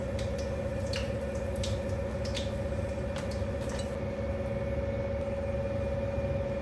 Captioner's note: I can hear the refrigerator humming